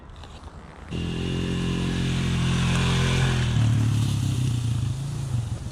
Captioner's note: bike engine roaring